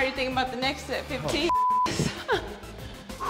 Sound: laugh

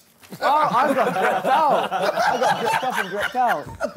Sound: group chattering

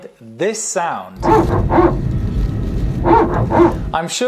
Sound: PTU barking sound

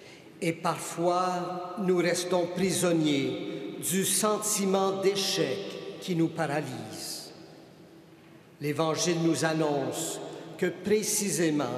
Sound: speaking French

